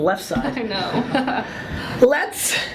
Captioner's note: laughs